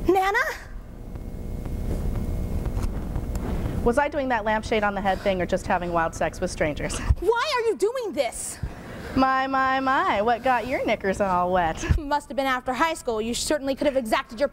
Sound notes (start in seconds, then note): none